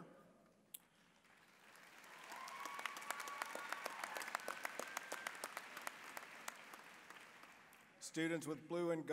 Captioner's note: applause, cheering